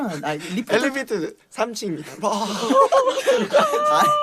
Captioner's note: laughing crazily again lol